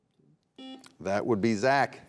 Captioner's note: buzzer buzzing